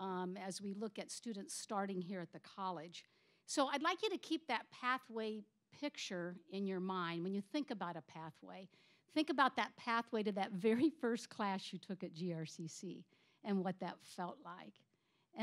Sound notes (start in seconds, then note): none